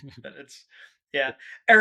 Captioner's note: laughing